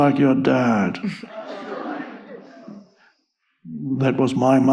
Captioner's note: audience laughs